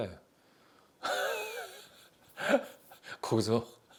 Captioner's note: chuckling